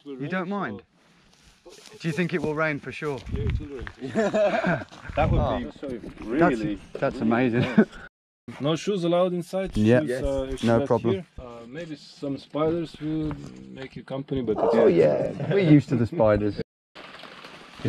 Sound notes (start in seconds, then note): 4.0 laughing; 8.1 laughing